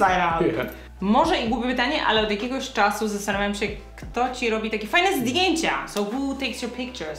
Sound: speaking in Polish

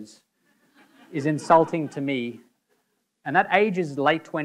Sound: audience laughing

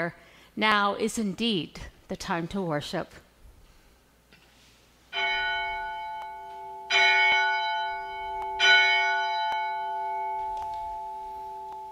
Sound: bell Rings 3 times

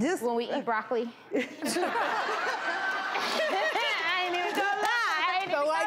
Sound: everyone laughing

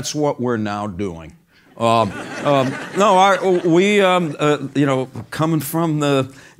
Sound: laugh

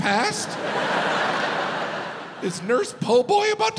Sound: audience laughs

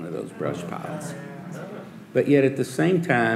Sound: audience murmuring

